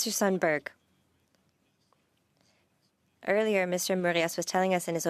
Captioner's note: speaking French